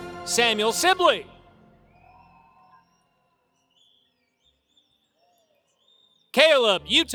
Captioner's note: applause